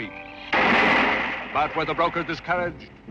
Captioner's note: loud crashing